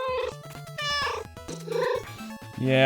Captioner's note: meow, meow